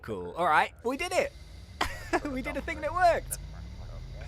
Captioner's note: laughs